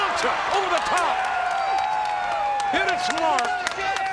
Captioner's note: spectators cheering